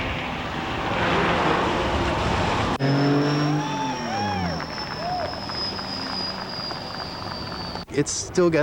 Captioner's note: car whirring and revving